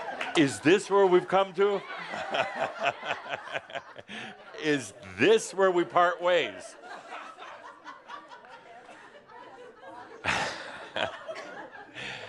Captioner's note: Adamus laughs; more laughter